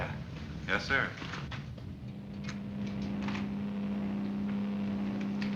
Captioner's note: machine whirring